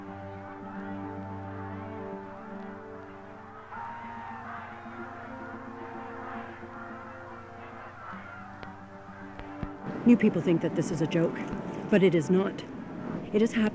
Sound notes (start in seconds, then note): 1.6 crowd talking indistinctly